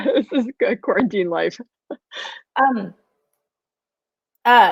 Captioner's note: laughs